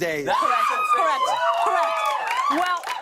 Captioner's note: audience cheering